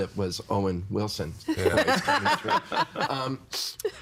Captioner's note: all laughing